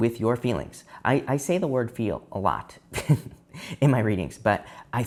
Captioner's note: chuckles